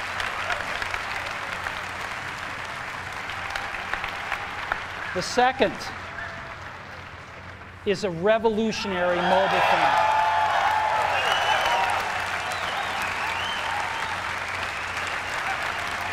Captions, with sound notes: The second is a revolutionary mobile phone. [ Applause ]